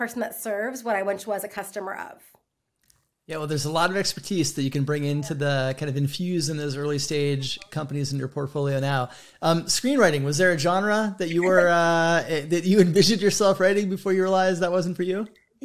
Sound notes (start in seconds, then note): 11.4 laughs